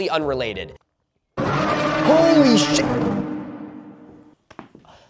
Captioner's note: Prowler Jumpscare sound